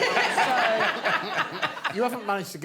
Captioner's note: laughter